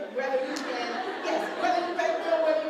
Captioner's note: laughter